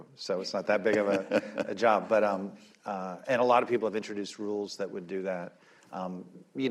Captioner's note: laughter